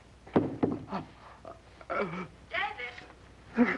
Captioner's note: groaning